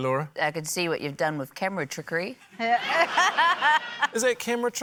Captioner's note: laughter